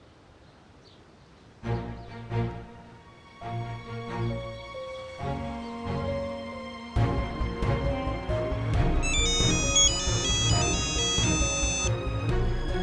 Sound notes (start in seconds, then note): 1.5 suspenseful music playing; 9.0 phone ringing